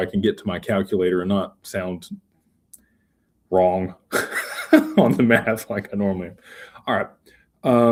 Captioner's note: laughter